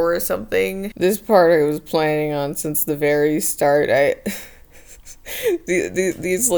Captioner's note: laughs